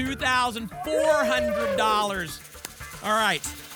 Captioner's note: applause and cheering